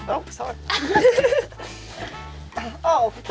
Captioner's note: both laughing